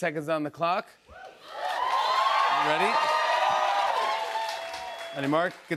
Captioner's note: cheers and applause